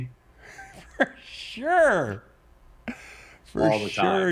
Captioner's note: laughs loudly